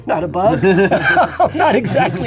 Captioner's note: laughs